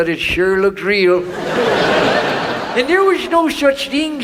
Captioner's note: audience laughs